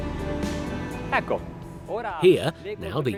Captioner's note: speaks in foreign language